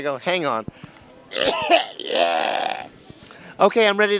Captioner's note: coughing and Hacking